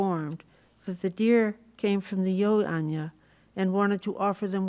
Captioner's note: non-english